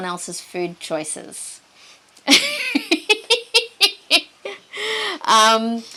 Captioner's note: both chuckle